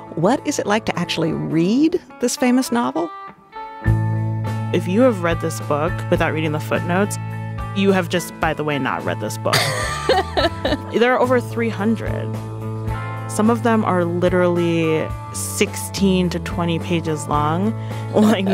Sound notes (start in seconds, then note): 3.4 soft rock music; 9.5 laughing